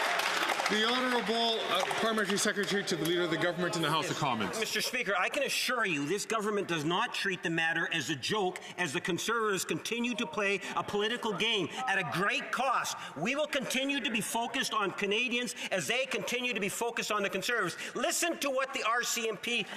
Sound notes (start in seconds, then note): 1.8 some Applause